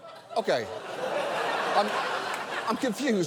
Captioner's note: audience laughs